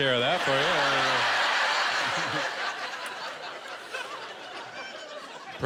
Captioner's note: laughter